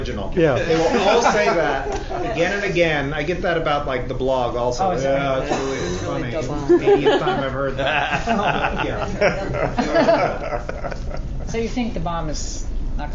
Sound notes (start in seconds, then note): 6.6 many speaking